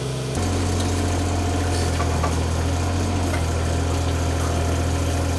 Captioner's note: engine humming